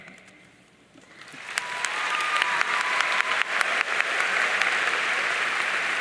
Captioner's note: audience cheering and applauding